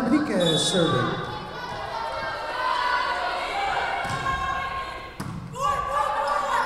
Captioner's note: whistle blowing